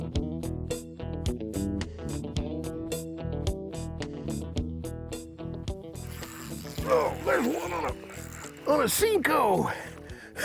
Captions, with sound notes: [reel zinging] Oh! There's one on a-- on a Senko!